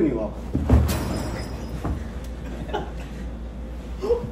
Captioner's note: clink!